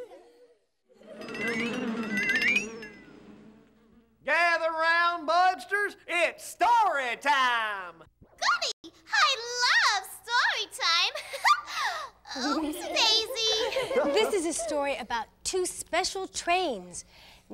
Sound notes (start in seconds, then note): 1.2 buzzing and rattling; 12.2 giggling